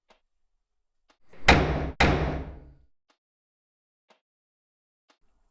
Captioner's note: hard knocking on door